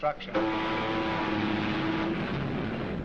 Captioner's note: ship horn